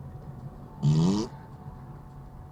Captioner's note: fart noise